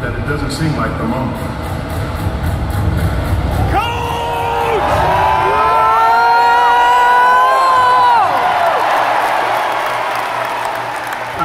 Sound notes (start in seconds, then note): 3.5 audience starting to cheer, loud roar; 8.3 clapping